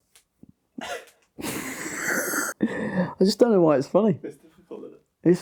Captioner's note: laughs